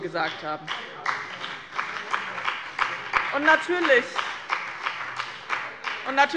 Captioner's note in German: Beifall